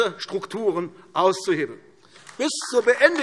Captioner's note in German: Beifall AfD